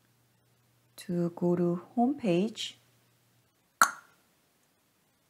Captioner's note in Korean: '딱' 소리